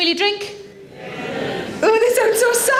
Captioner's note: audience murmurs